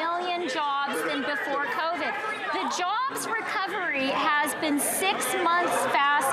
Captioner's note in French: applaudissements; voix de l'interprète